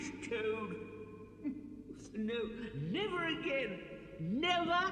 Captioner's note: sobs